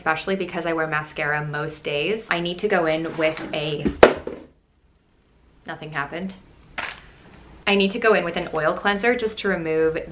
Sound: noise of something dropping

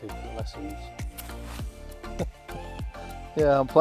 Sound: chuckles

